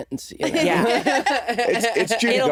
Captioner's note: laughing